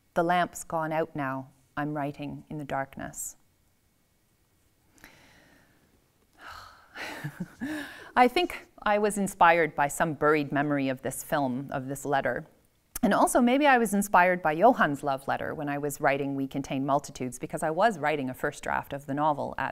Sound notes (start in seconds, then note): 6.4 sighs; 7.0 laughs